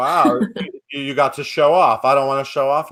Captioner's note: chuckles